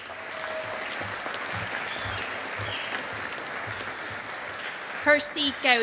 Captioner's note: audience applauding